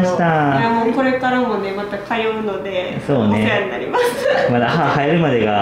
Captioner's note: laughs